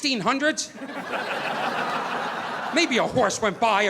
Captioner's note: audience laughing